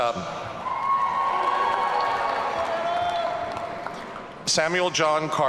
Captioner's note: audience cheering